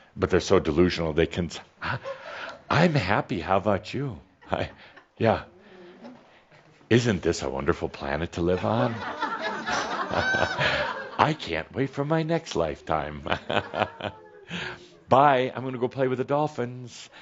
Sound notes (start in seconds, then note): 8.5 some laughter at his fake smile; 13.1 Adamus chuckles